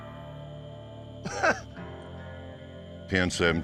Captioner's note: laugh